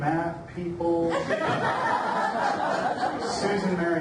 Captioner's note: audience laughs